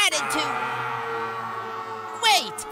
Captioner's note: scream